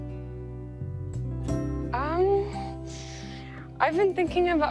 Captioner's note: sucks teeth